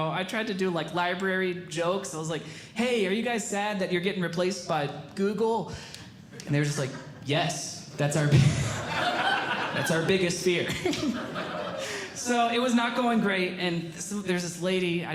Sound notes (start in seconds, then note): 8.4 audience Laughing; 8.4 laughing; 11.1 audience Laughing